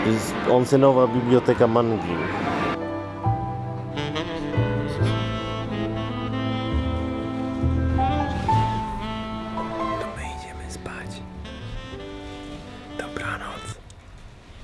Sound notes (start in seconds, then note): 10.0 whispering